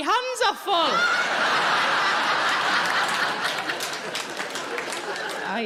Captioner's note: audience laughing